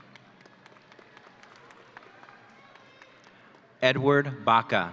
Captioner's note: audience applauding